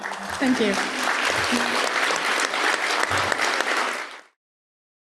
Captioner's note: applause